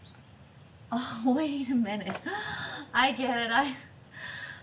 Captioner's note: none